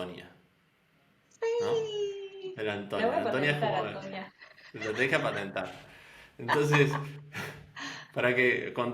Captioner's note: laughs